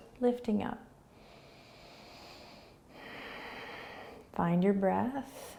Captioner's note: inhaling and exhaling